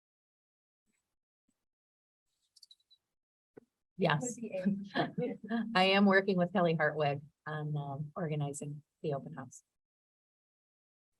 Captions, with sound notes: >>Yes, (laughs) I am working with Kelly Hartwig on organizing the open house.